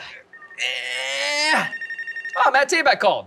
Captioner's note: phone ringing